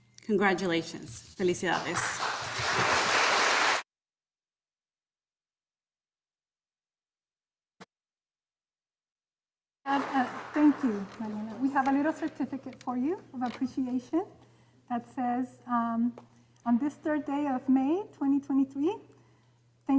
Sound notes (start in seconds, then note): 1.3 speaking in Spanish; 1.7 audience applauding